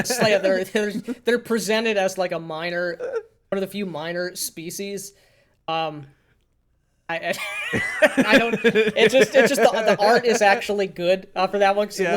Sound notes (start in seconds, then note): 0.0 laughing; 7.3 laughing